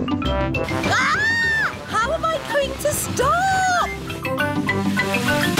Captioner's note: shrieks